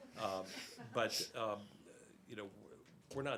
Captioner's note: laughter